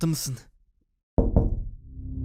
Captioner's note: knock knock